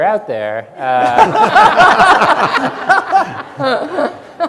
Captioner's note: audience laughs